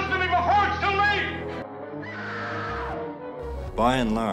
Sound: screaming

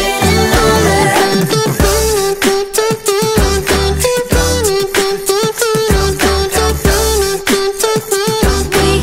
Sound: beatboxing

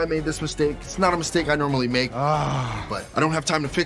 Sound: groans

